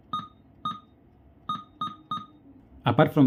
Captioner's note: beep x3